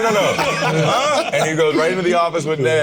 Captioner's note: all laughing